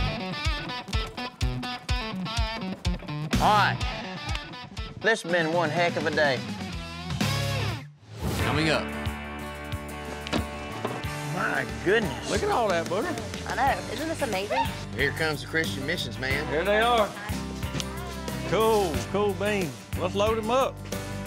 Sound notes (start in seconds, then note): 4.3 claps; 9.8 cans thudding